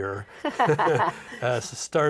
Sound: both laughing

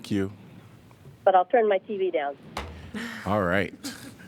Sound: laughter

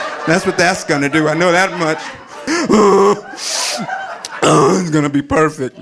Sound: audience laughing

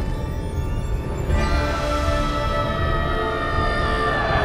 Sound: Angela yelling

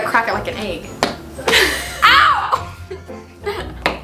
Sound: banging

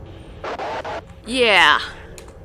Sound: haha no screw you Leaper sound

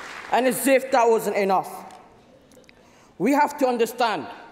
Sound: applause

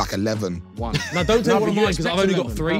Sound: laughing

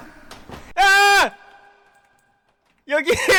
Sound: screams

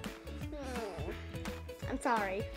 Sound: groaning

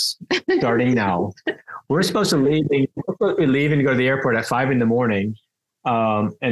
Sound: laughs

